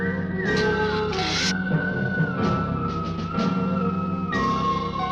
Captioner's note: lizard hissing